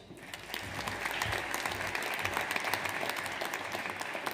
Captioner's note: audience applauds